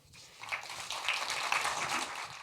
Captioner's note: applause